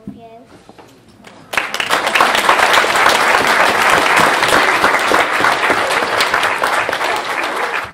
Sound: applause

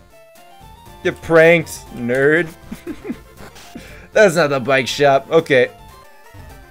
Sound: laughs

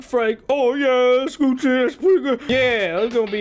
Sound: dragon noises

